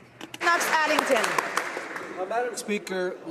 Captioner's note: some Applause